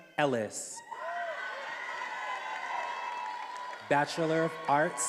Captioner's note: attendees applauding and cheering